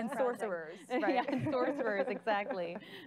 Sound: laughing

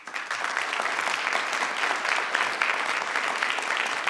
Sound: crowd clapping

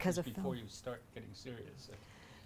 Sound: voiceover

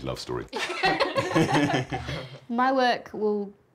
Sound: laughter

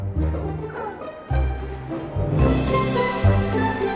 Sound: grunts; lively music

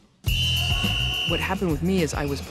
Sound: whistle whistling

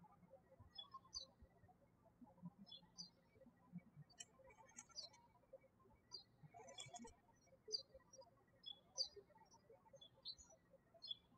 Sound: birds chirping

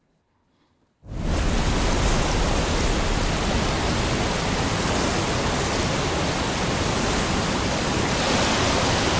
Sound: water falling

